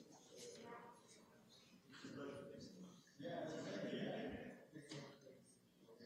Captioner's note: chatter and laughter